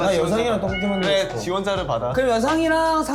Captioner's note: heart palpitating